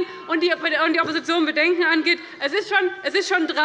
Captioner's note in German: Unruhe - Glockenzeichen des Präsidenten